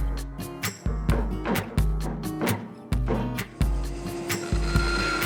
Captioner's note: bright upbeat music; wood tapping; saw buzzing